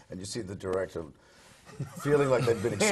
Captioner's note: laugh